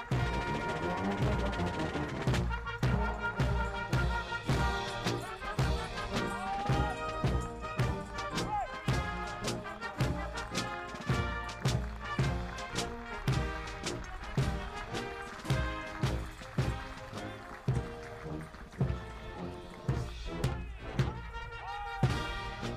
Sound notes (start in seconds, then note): 8.7 audience applauding; 18.8 soldiers shouting commands